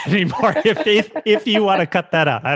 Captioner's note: both laughing